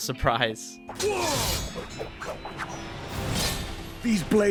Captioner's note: sword clanging